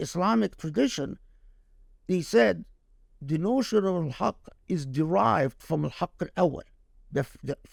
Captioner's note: speaking Arabic